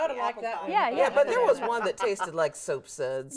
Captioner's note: host chattering